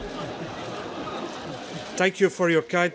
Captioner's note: laughter